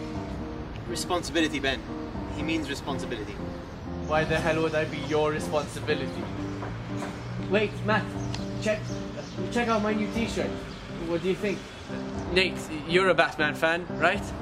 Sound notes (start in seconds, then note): none